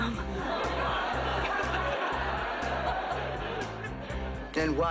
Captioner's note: laughs